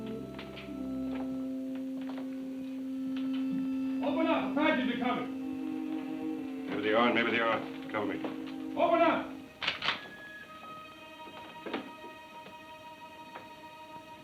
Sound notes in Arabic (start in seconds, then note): 9.6 نقرات البندقية